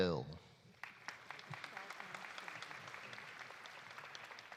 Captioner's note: audience applauding